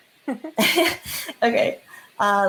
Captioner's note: laughs